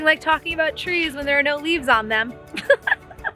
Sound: laughs

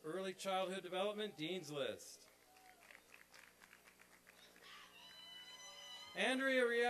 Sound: applause and cheering

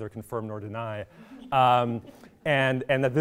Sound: laughing

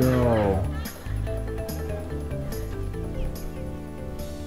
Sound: laughter

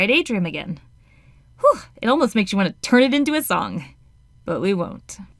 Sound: phew

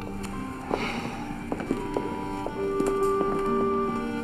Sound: Jake sighs

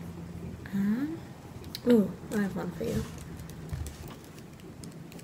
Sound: typing sounds

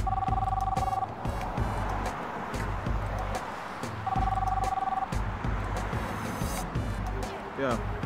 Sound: phone rings

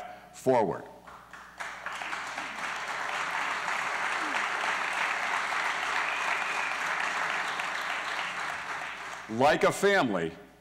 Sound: applause

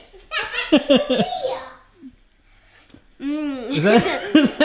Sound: laughs

